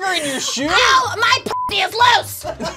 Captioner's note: beep